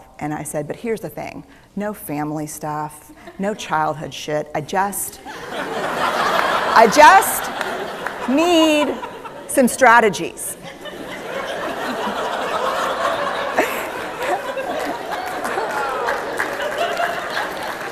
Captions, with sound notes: And I said, "But here's the thing: no family stuff, no childhood shit." (Laughter) "I just need some strategies." (Laughter) (Applause)